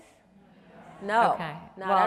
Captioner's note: audience murmuring